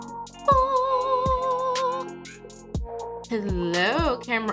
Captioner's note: vocalizes